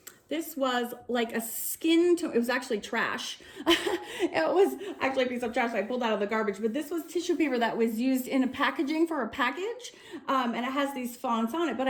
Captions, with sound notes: This was like a skin. It was actually trash. (laughs) It was actually a piece of trash that I pulled out of the garbage, but this was tissue paper that was used in a packaging for a package, and it has these fonts on it.